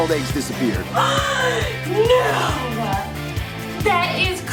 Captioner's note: gasps